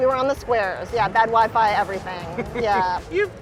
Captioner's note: laughing